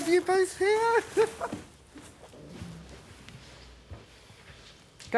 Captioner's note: Evelyn chuckling